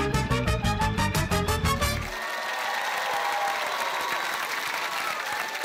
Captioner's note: cheering, applause